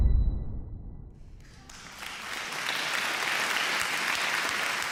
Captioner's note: dramatic music; applause